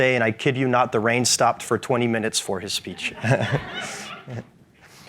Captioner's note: audience laughs; laughs